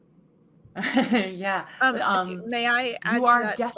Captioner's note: laughs